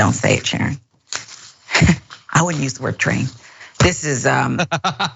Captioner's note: laugh